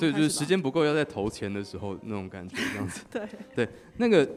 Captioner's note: laughs